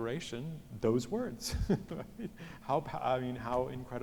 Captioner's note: laughs